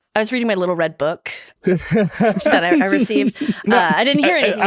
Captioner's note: laughing